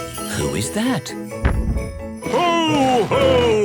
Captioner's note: thump!